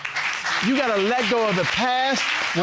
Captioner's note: audience applauding